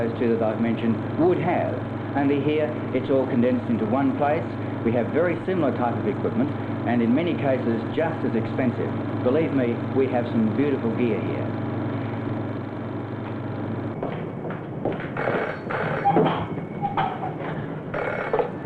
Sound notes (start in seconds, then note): 13.9 footsteps; 17.8 phone ringing